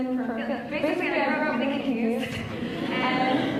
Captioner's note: laughs